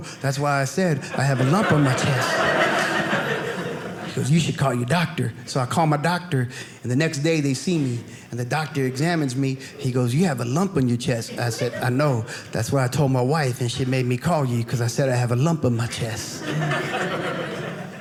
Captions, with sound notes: That's why I said I have a lump on my chest. (audience laughing) "You should call your doctor." So I call my doctor and the next day they see me, and the doctor examines me, he goes, "You have a lump "on your chest." I said, I know, that's why I told my wife and she made me call you, because I said I have a lump on my chest. (audience laughing)